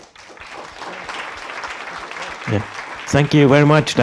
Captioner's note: audience applauds